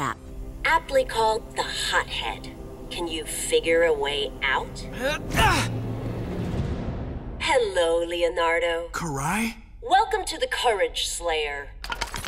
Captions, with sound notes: Aptly called the hothead. Can you figure a way out? [grunting] -Hello, Leonardo. -Karai? Welcome to the Courage Slayer.